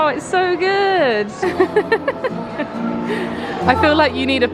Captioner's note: giggles